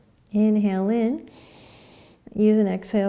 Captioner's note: inhaling and exhaling; inhaling